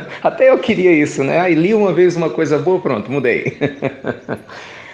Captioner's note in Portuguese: Risos; Risos